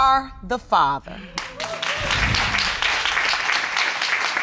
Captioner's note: clapping